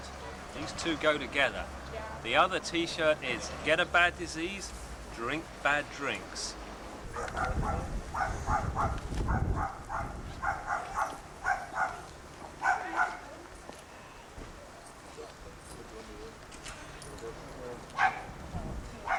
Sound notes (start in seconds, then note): 7.7 dog barking; 15.1 people chatting